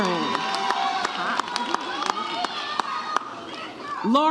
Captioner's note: audience cheers